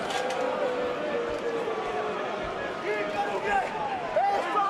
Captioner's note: crowd chatter